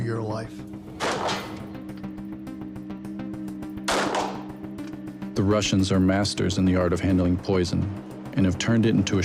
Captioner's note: gun firing